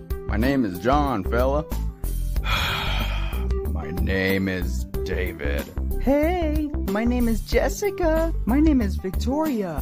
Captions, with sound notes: My name is John fella! *Sigh* My name is David... Heyyyy! My name is Jessica! My name is Victoria!